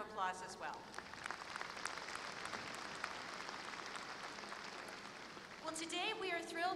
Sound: applause

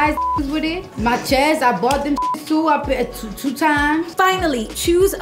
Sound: beep; beep

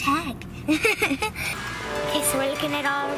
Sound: laughter

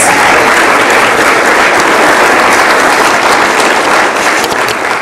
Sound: audience applauds

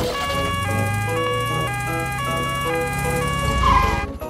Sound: siren sounding

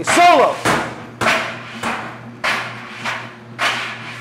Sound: just dryer pounding

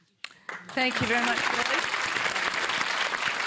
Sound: applause

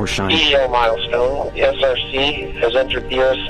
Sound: voice on radio

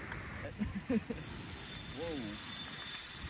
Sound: laughing

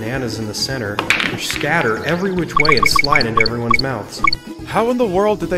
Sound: pool balls clacking, banana collection sound from DKC

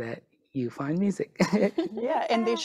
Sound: chuckling

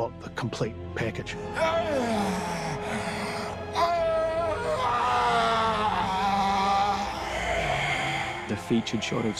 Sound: groaning

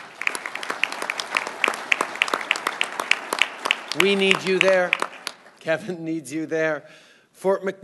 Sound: applause

